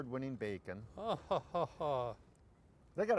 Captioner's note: laughing